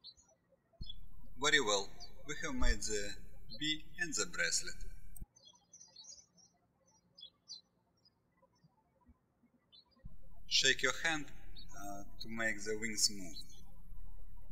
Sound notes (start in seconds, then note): 0.0 birds chirping; 5.7 birds chirping